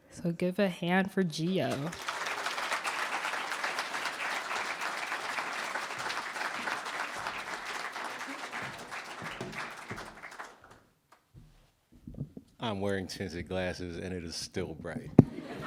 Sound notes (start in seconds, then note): 2.1 applause